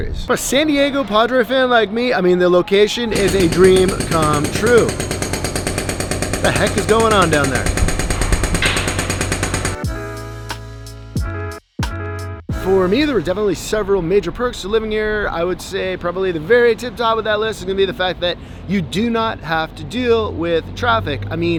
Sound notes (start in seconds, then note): 4.7 construction sounds; 8.2 construction sounds continue; 9.7 chill music